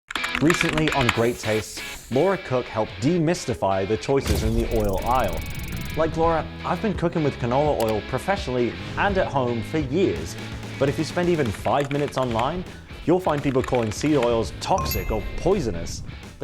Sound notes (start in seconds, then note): 13.4 keyboard keys clicking; 14.8 notification ping